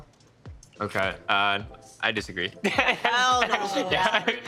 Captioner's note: laughing